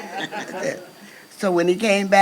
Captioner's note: crowd laughs